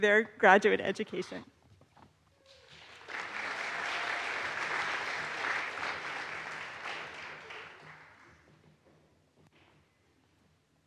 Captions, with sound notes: their graduate education. (audience applauds)